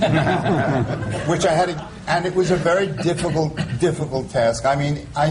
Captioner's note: laughter